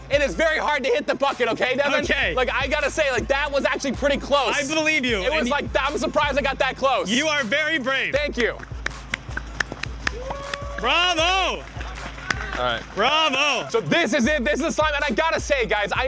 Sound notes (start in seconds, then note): 8.3 clapping; 9.9 people cheering